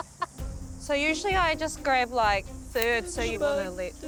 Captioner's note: laughter